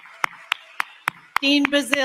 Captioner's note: applause